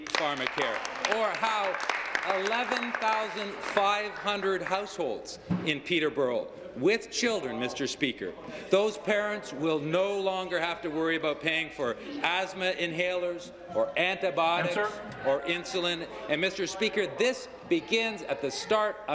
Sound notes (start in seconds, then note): 4.2 applause